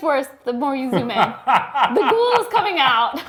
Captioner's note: laughs